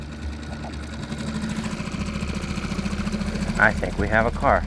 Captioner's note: motor rumbling; dramatic music